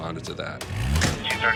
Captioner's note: engine accelerates